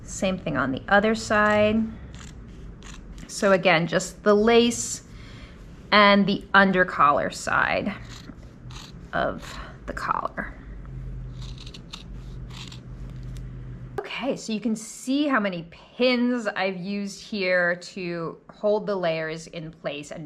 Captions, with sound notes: Same thing on the other side. So again, just the lace and the under collar side of the collar. (scissors snipping) Okay, so you can see how many pins I've used here to hold the layers in place.